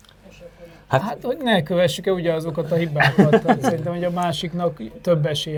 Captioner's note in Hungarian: nevetés